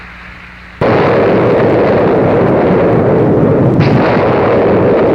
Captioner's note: explosion booming